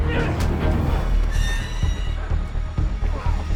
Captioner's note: metal creaks